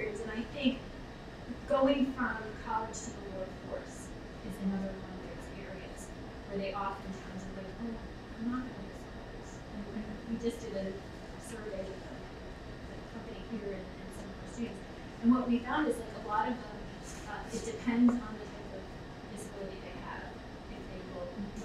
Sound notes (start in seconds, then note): 9.0 speaking away from mic